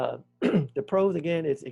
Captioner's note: clears throat